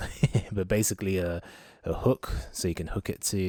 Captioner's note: laughs